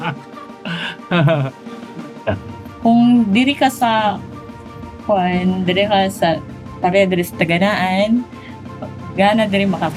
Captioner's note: Speaking Cebuano